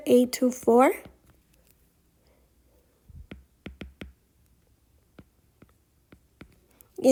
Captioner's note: writing Sounds